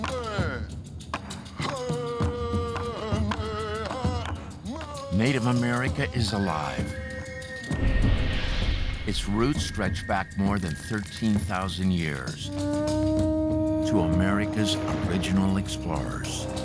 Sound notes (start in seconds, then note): 0.3 man chanting, drumming; 12.1 conch horn trumpets